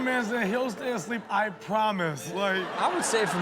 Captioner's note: audience laughs